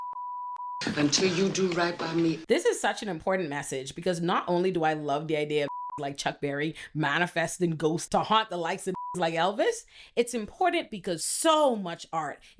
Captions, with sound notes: Until you do right by me. This is such an important message because not only do I love the idea of (beep) like Chuck Berry manifesting ghosts to haunt the likes of (beep) like Elvis, it's important because so much art